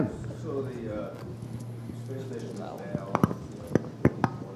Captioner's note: speaking off microphone